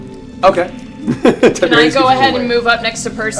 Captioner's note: laughs